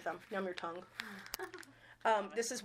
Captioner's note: chuckling